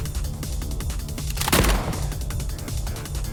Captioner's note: bang